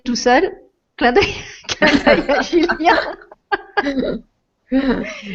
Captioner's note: laughs